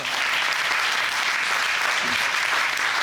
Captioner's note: audience applauding